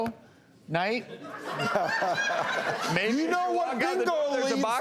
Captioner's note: laughter